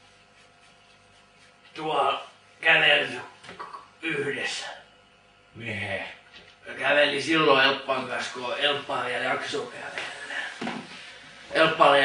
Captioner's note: cough